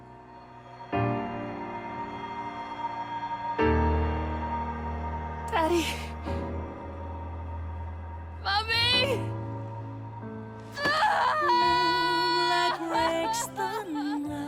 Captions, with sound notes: Daddy, Mummy! (character crying)